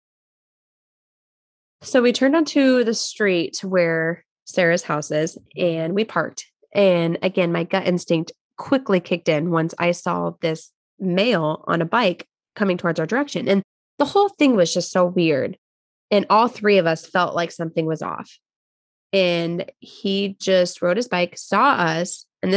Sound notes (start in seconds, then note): none